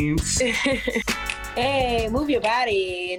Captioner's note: giggles